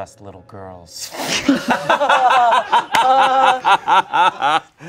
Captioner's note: everyone laughs